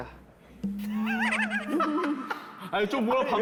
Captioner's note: laughing